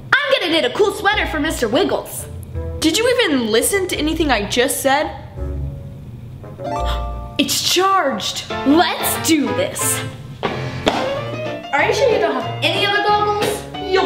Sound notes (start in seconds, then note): 6.9 machines dings